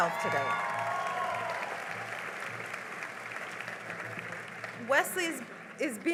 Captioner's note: cheering and applause